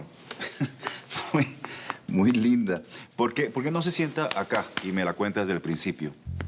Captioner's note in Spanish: Risas